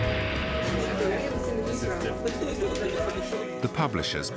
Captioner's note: chattering